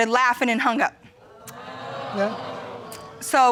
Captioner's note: crowd